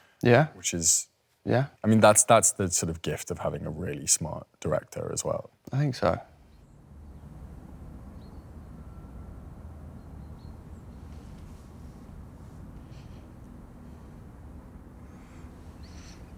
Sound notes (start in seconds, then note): 6.8 birds distantly chirping; 12.9 softly breathes